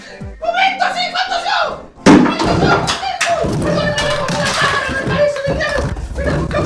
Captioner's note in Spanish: ruidos re rotura